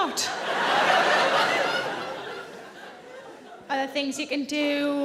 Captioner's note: audience laughing